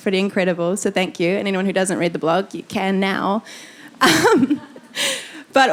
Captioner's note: laughing